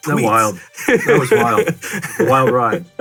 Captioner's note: laughs